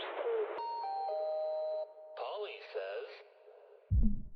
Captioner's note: electronic chiming